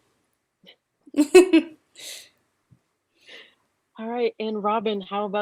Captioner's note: laughter